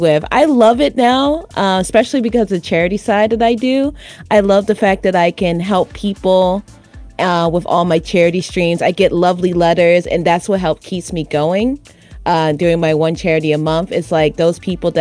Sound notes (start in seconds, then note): none